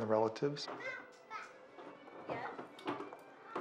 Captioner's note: children talking and laughing